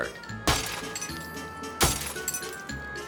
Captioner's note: window shattering; bat smashing; melodic music